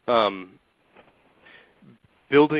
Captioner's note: silence